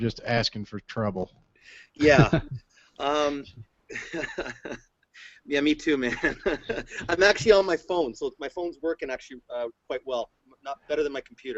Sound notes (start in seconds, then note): 3.9 laughter; 6.0 laughs